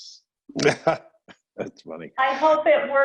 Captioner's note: chuckling